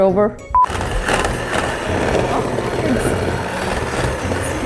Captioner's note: blender whirring